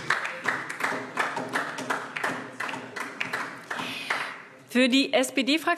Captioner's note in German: Beifall DIE LINKE